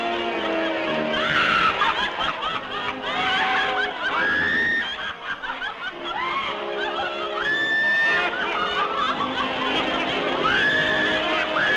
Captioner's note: raucous laughter